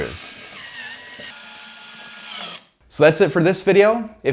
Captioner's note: drill buzzing